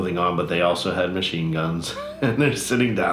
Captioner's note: laughs